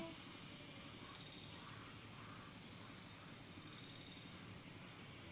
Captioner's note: kids chattering; insects chirping